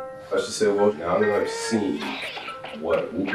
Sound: crying and coughing

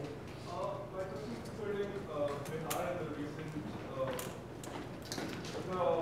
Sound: audience shuffling drowns out speaker

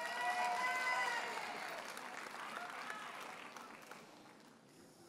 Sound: audience cheers and applauds

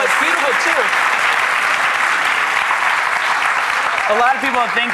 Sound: audience applauds

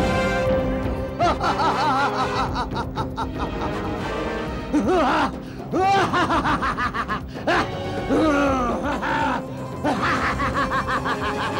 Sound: laughs

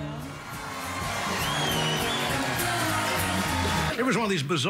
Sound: audience applauds

